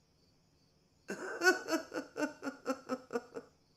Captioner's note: giggling